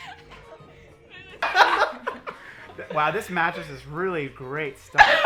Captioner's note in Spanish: Risas